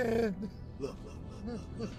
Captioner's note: sobbing